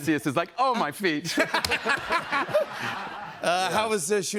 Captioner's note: laughter